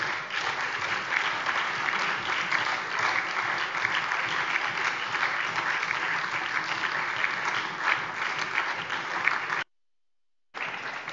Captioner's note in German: Anhaltender Beifall SPD und DIE LINKE